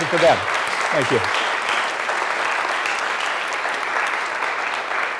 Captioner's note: applause